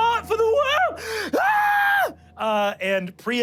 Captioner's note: screams